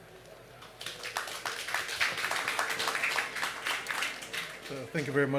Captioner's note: applause